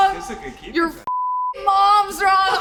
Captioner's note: beep